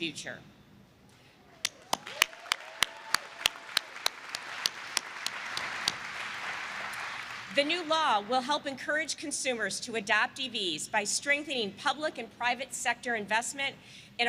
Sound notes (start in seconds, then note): 1.6 applause